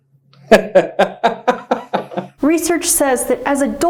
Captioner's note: laughing